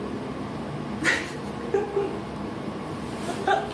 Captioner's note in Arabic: يضحك